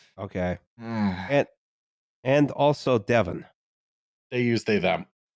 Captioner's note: long-suffering sigh